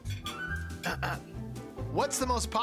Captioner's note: clears throat